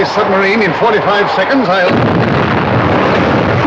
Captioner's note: explosion